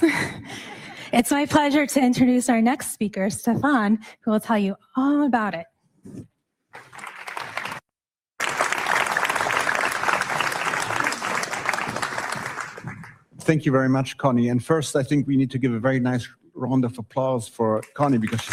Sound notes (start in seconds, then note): 0.2 audience laughs; 8.3 audience clapping